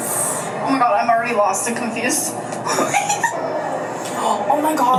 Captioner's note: laughs